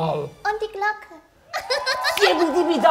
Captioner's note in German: Hohes Lachen